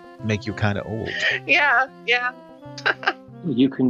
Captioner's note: chuckle